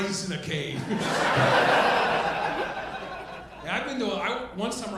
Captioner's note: audience laughing